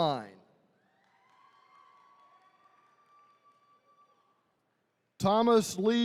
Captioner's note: attendees cheering